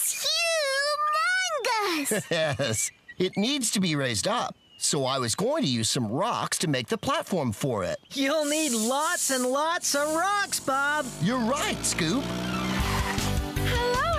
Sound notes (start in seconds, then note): 1.8 chuckling